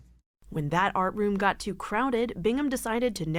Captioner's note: voice-over